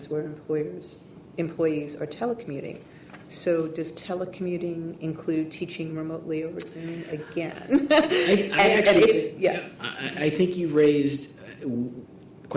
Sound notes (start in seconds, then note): 6.6 laughs